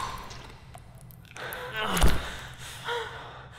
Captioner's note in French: Amy pleurniche